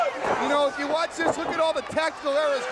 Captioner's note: crowd chatter